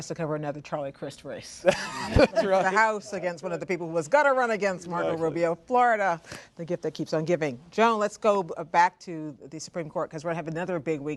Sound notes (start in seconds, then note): 1.6 laughter; 1.7 laughs